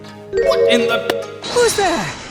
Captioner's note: thump!